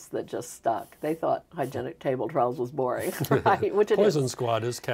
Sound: laughing

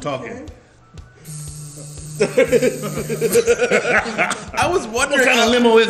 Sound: laugh

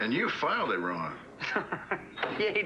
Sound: Nora laughs

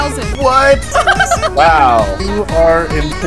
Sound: laughs

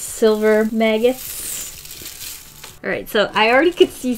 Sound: maggots crinkle

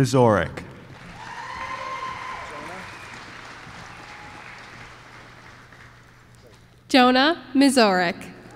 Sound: applause

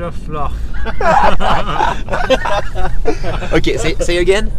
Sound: laughes

